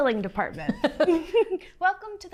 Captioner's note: both chuckles